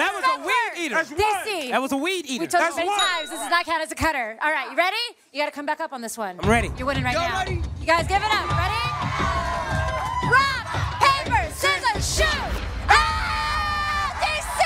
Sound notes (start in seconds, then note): 9.2 cheering